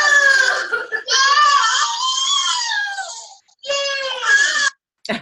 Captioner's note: children screaming